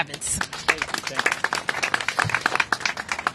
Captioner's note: applause